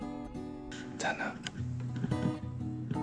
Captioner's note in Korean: 소곤